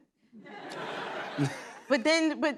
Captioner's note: laughter